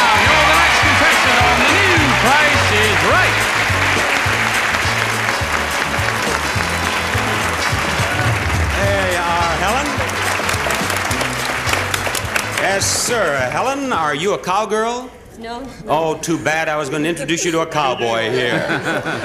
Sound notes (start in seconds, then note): 3.4 audience applauding; 3.4 upbeat music